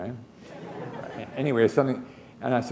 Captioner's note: laughter